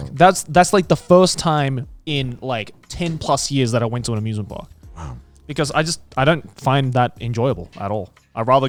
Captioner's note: none